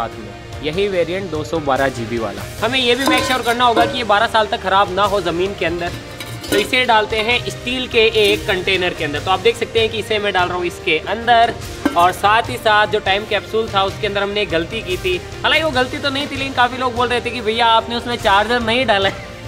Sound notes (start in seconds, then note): none